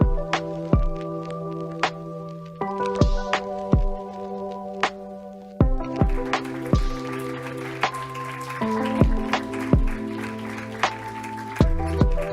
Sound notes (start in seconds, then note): 6.0 audience applauding; 6.1 soft upbeat music